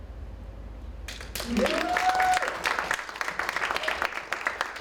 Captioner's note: audience applauds